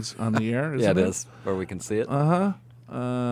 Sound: laughs

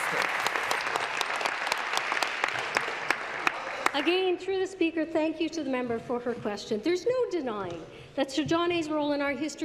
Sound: applause

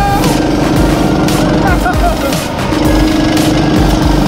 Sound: shouting; motors roaring

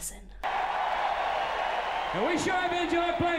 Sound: audience cheers

